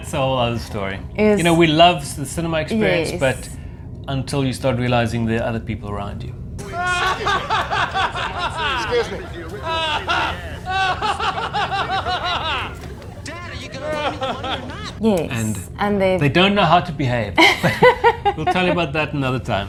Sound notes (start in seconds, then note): 7.6 laughing